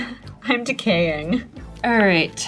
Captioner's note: laughing